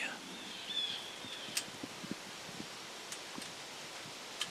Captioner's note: birds squawking